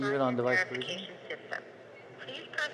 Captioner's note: phone Voice